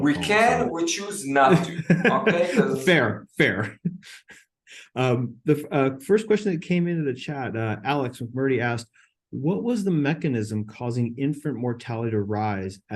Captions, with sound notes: - Well, we can, we choose not to, okay? - (laughing) Fair, fair. The first question that came into the chat, Alex Roberty asked, "What was the mechanism causing infant mortality to rise